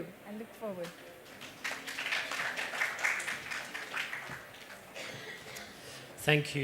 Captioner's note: applause